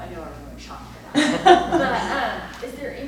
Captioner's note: laughs